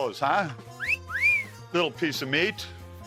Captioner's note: whistles